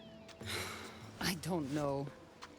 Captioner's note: exhale